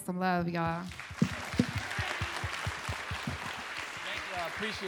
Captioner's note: applause and cheering